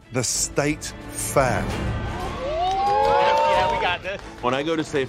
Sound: cheering

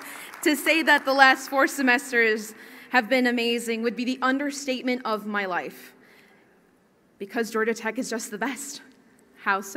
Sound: cheering and Applause

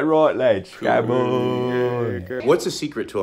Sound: lads grumble in the distance

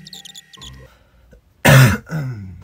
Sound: cough cough

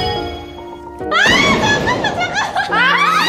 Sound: she burst into laughter

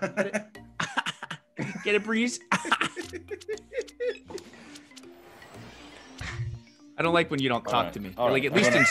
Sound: laugh; laugh

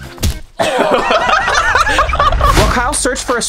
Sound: laughing

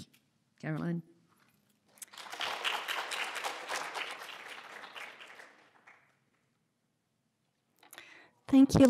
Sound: applause

